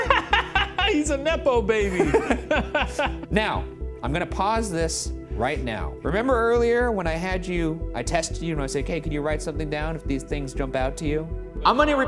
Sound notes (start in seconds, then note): 1.8 laughs